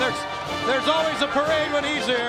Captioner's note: crowd chatter